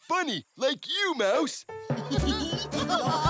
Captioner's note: laughing